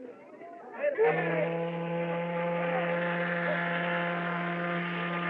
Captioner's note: whistle Blows |